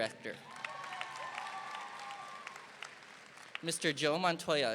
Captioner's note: audience applauding